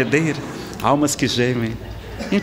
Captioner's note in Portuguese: risadas